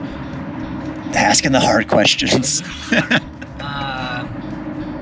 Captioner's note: laughter